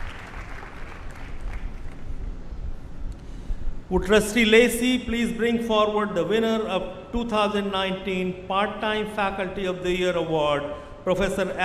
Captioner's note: applause